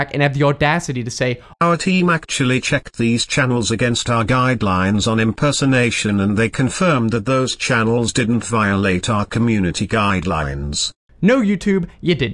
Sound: TTS Voice

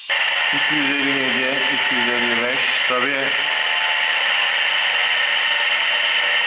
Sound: applause

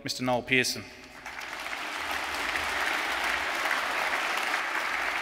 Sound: audience applauds

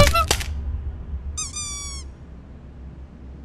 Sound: wood breaks; clown honk; clown squeaks

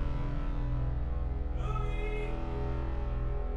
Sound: echoing

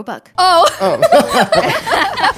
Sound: all laugh

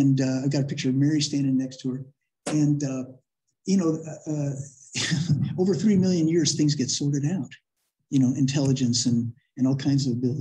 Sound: laughter

